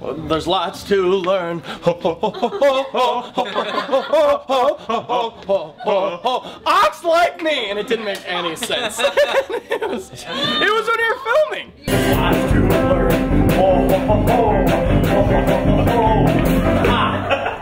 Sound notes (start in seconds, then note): 8.6 laughter